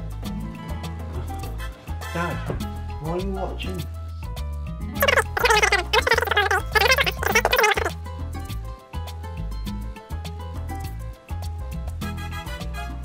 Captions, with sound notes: Dad, what are you watching? (Speaking too fast) That was fast....